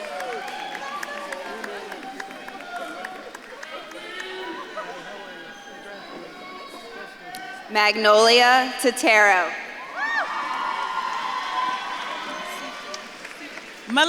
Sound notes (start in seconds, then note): 7.1 speaks faintly; 9.7 audience claps and cheers